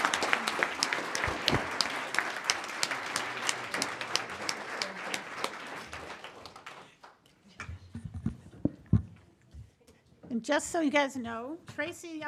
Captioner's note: applause